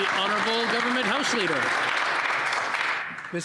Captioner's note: some Applause